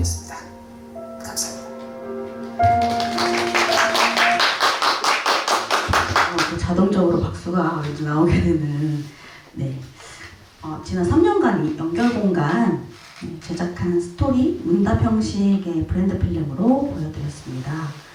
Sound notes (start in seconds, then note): 2.6 applause